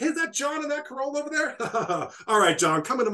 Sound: laughs

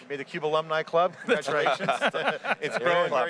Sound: laughing

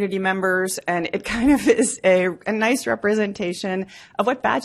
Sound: laughs

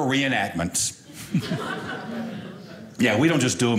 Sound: audience laughing

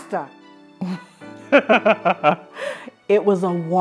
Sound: laughing

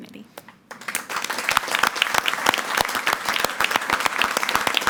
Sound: audience applauding

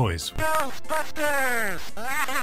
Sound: synth Voice; synth laughing

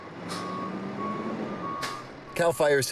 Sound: car reverse alarm

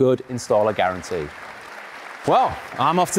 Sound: audience applauding

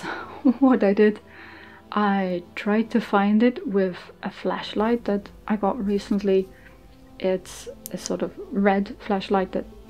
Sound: laughing

